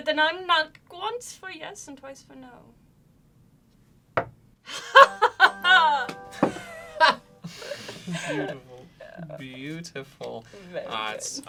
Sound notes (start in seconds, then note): 4.2 knocks once; 4.7 laughs